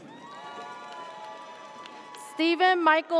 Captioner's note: audience cheers